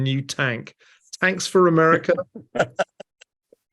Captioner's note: laugh